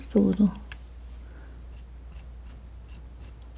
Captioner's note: scratching